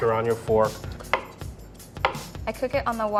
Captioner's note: knife thunks